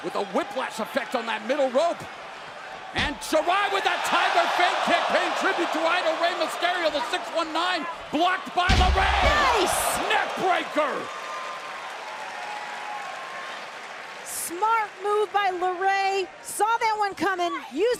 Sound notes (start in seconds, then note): 15.0 crowd cheering